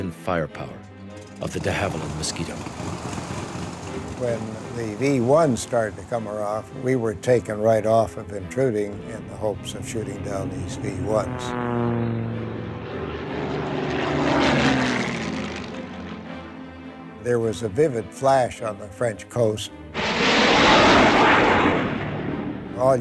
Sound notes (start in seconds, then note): 3.0 engine roaring; 11.0 jet engines roaring; 19.9 jet engine roaring